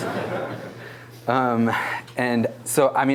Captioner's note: laughter